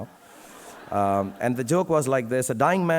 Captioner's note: audience laughing